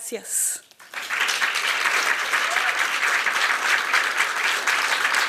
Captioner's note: applause